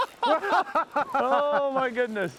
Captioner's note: laughing